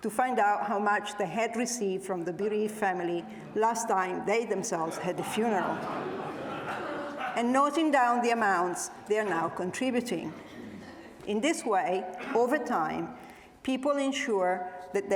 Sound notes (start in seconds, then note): 4.6 audience laughs